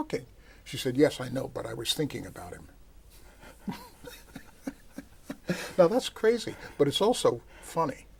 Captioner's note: laughter